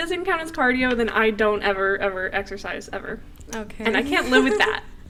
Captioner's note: more laughter